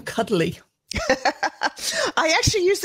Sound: laughs

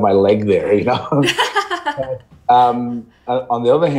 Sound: laughing

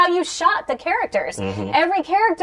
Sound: sounds of agreement

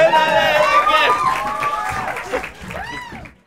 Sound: applause and cheers

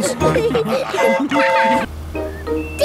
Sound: train whistle toots

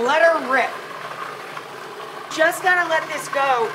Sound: machine whirring

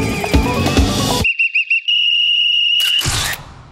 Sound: whistling

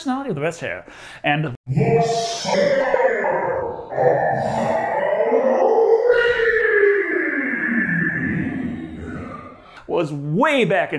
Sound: booming

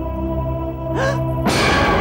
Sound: gasps

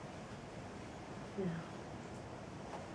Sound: whispering

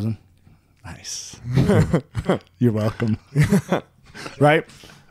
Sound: laughing

